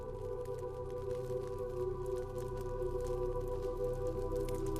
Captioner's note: fire crackling